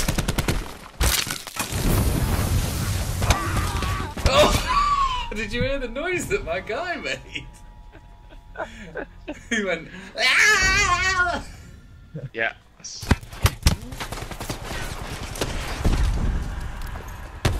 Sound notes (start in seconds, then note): 4.7 laughs